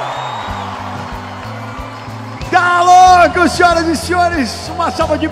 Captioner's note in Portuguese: palmas